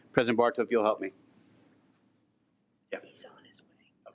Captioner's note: none